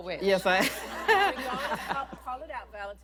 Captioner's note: laughter